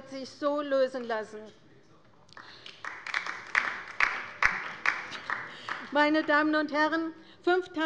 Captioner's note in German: Beifall bei der LINKEN